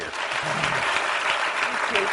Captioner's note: applause